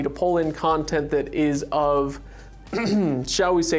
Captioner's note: clears throat